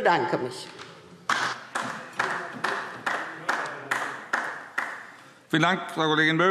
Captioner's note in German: Beifall DIE LINKE - Zurufe CDU